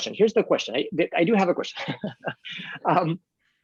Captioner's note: laughing